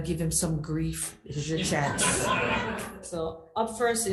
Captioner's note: group laughs